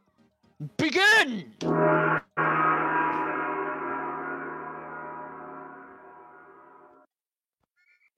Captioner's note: g o n g